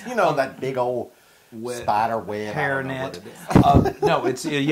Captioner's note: laugh